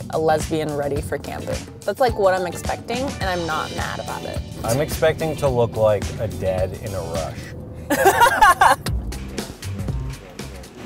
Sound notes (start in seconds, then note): 7.9 laughs; 7.9 upbeat music